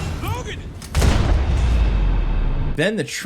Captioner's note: gun blasts